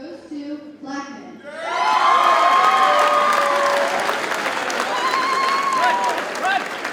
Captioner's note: audience cheers and applauds